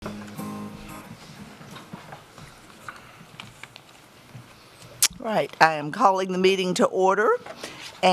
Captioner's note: sound of a gavel